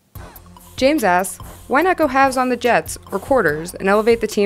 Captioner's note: voiceover